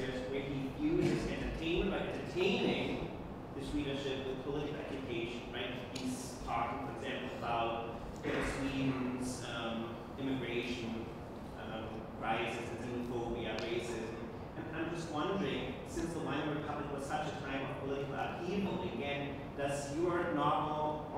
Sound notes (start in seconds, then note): 7.4 speaking foreign language